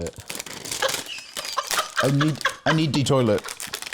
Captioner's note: laughs